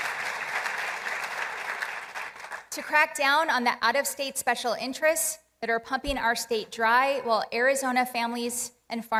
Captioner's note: applause